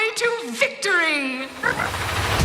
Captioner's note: squeaking